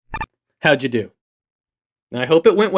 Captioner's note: icon beeps